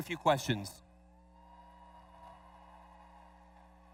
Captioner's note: cheers